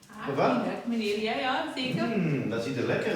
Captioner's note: speaking in foreign language